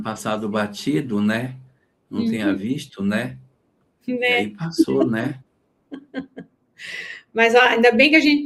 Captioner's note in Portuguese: limpando a garganta; suspirando; risadas